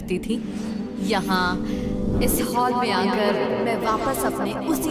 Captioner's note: echoing